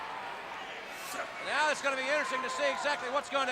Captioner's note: crowd chatter